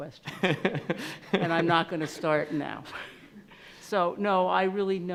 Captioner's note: laughing